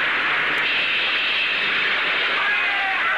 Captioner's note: hisses